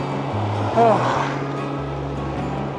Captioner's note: exclaims